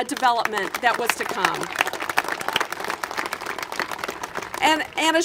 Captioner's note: congregation applaud